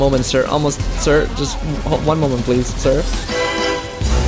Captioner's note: nervous rambling